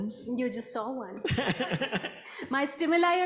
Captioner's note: laughs